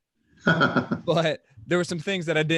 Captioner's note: chuckling